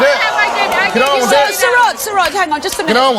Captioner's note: beeps; yelling